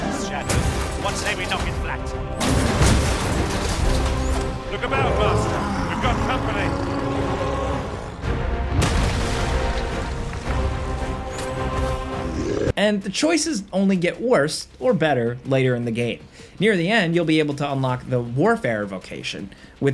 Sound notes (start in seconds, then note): 2.4 blows crashing; 8.7 blow smashing; 8.8 rocks clattering